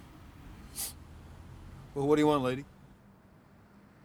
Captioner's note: sniffs